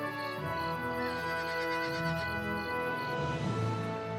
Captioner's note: horse winnies; music fades